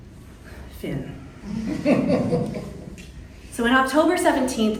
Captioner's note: audience chuckling